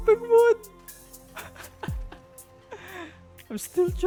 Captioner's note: laugh